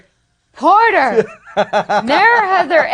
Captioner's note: laughing